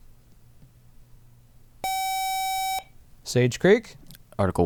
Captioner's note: buzzer